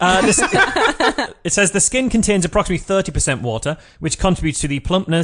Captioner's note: laughs